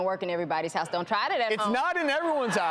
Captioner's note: audience laughs